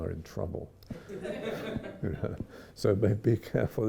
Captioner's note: audience laughs